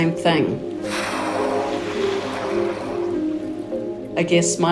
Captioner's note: tranquil music; whale blowing air